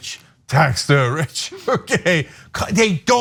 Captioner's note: laugh